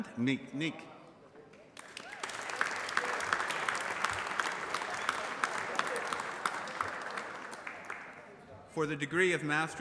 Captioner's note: applause